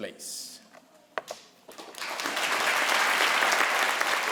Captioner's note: crowd applauds